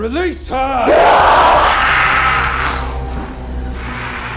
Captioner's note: demon screams